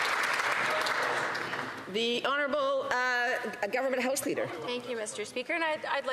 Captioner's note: some Applause